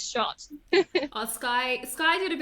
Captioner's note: laughs